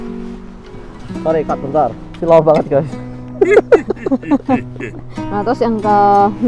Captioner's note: chuckles